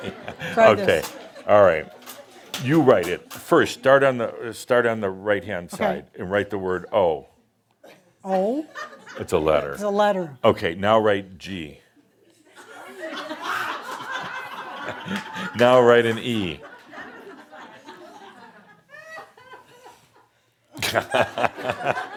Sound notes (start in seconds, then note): 14.7 laughter; 20.8 Adamus chuckles